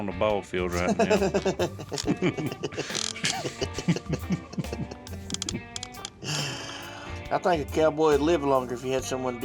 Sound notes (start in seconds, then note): 0.8 laughing